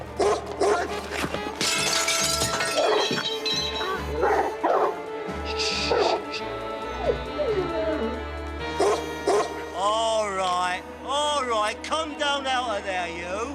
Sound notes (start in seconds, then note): 0.6 barking; 7.0 whimpering; 8.7 barking